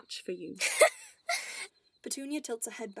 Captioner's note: Petunia laughs